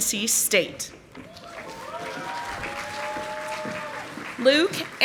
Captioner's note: audience applauding